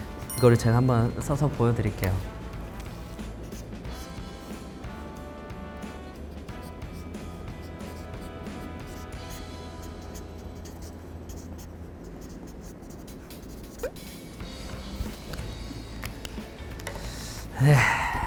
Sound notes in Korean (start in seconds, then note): 5.9 슥슥슥슥슥